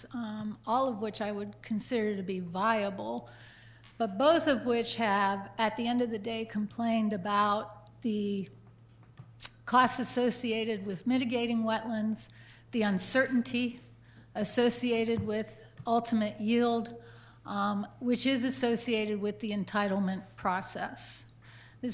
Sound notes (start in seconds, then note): none